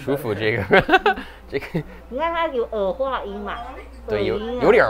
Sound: laughs

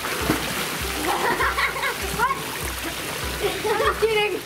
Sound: laughing

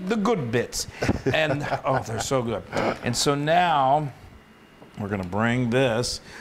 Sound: laugh

